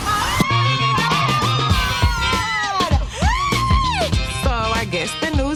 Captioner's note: screaming